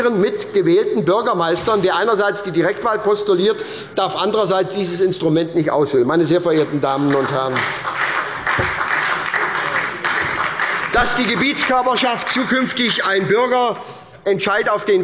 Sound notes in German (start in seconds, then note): 6.9 Beifall bei der SPD